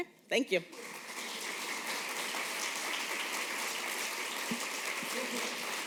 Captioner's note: applause